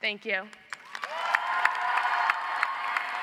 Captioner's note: audience applauds